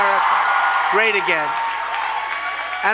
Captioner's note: applause